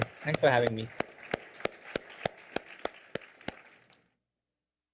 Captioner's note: audience clapping